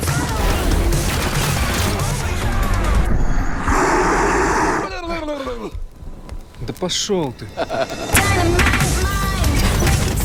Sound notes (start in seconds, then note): 3.5 bloodsucker roars